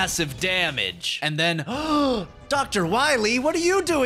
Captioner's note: gasp